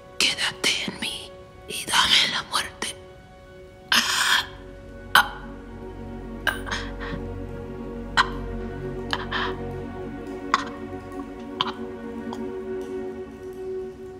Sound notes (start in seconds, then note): 3.8 gasping